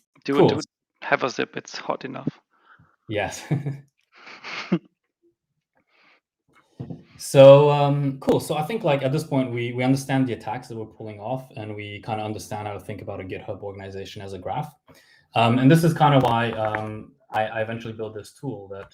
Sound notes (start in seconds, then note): 4.2 laugh